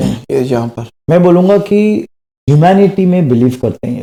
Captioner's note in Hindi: गला साफ़ करने की आवाज़